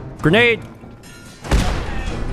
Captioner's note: boom!